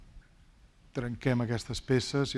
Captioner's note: speaking spanish